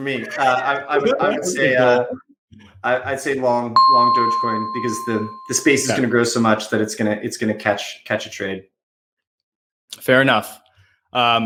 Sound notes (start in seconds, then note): 0.0 chuckles; 0.2 laughing; 3.8 bell dings